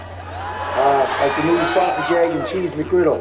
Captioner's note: audience cheering